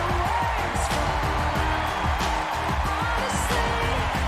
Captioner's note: cheers and applause